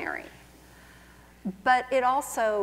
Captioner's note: none